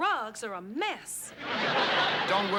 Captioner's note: laughter